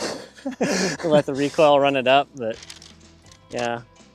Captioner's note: laughter